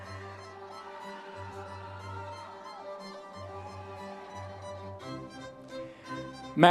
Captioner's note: audience members cheering continues